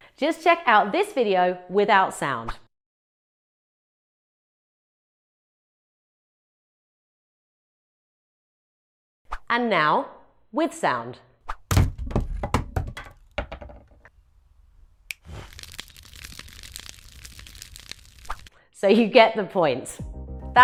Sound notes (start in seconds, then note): 11.6 ax thumps; 15.5 fingers snapping; 16.3 fire crackling